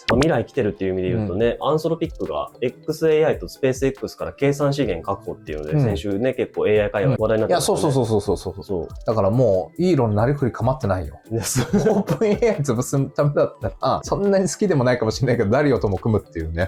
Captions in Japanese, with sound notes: 未来てるっていう意味で言うとね、アンソロピックが XAIとスペースX から計算資源確保っていうので先週ね、結構 AI会話題になっ いや、そう、そう、そう、そう、そう、そう、そう、そう。 だからもうイ論なり振りかっ [笑い] オープンA 潰すためだったらそんなに好きでもないかもしんないけど誰とも組むっていうね。